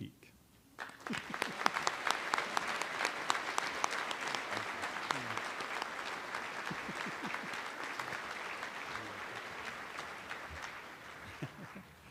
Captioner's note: applause